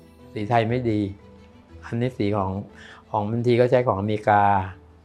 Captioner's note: speaking foreign language